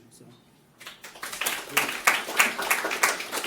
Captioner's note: applause